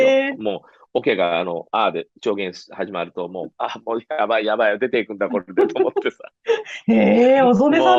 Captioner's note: laughs